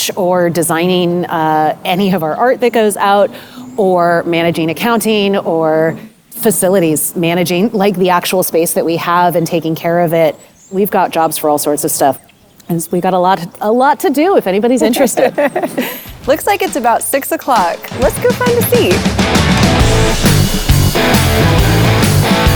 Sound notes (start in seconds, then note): 14.7 giggles; 19.3 bright rock music